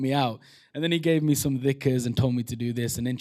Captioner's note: non-english